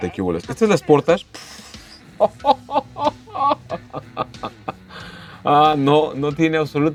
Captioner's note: laughter